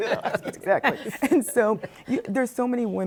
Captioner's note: laughs